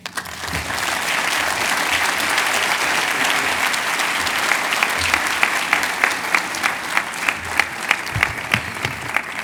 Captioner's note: cheers and applause